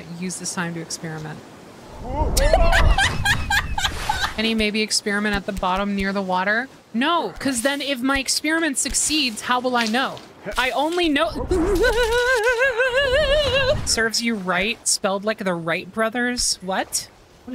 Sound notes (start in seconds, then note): 2.3 laughter; 11.2 fear Noises